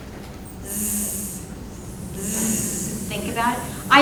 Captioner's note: imitating /z/ sound